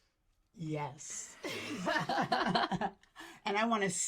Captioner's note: laugh